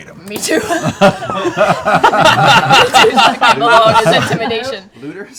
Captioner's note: laughs